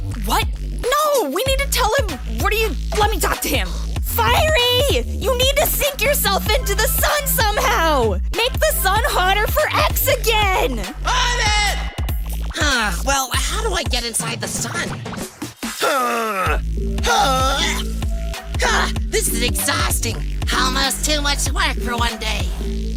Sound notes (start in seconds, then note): 0.0 yelling; 4.3 yelling; 11.0 yelling; 17.0 grunting